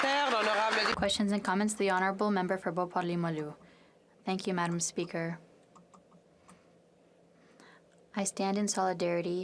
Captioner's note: applause